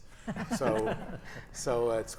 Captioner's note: audience chuckles